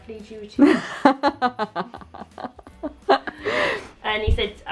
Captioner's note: laughs